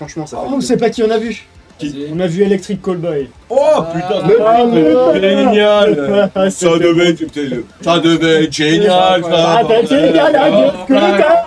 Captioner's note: German accent